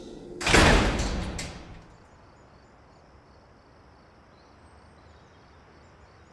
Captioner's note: metal clangs; birds chirp